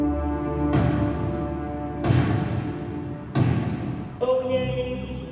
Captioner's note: gavel pounds